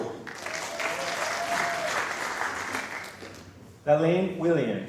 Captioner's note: applause